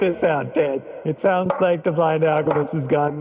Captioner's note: chop